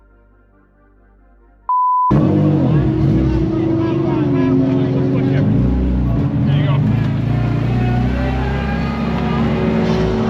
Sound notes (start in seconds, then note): 2.1 engine noises